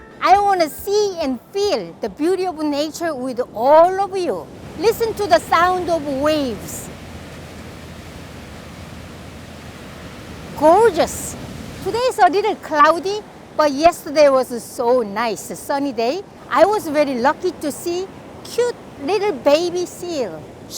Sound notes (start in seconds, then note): 7.2 waves shushing